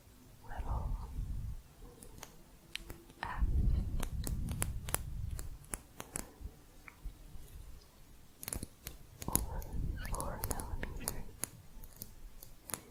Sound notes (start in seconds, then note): 4.4 light plastic tapping; 12.4 light tapping